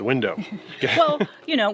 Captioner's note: chuckling